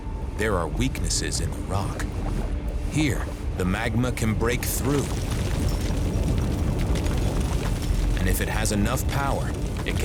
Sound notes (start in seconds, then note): 4.4 magma oozing, rock splitting